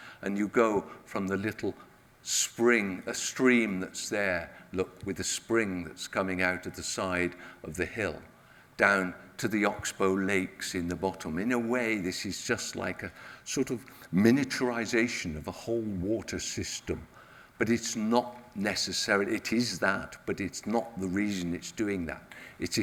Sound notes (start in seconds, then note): none